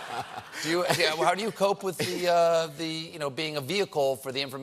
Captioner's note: laughter